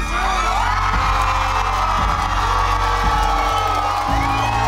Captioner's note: cheering and applauding